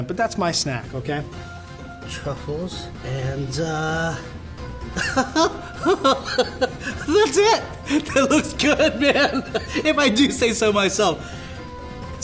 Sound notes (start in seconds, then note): 4.8 laughing